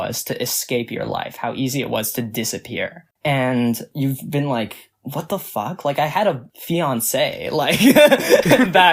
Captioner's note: both laugh